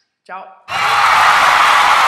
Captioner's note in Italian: Rumore di applausi scroscianti